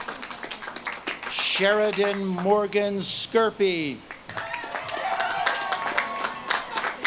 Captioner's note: audience claps and cheers